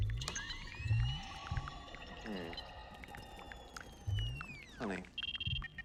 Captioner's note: high pitched screeching